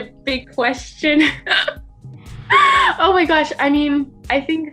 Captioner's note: laughs